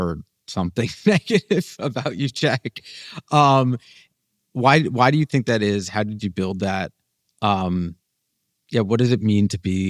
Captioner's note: laughs